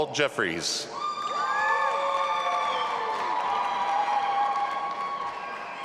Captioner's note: audience applauding and cheering